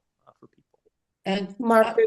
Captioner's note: audio cutting out